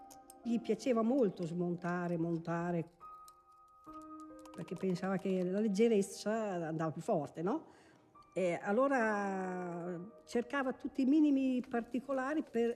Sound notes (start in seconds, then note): none